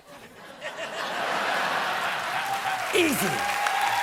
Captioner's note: laughter; applause